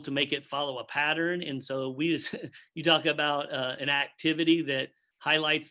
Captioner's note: chuckles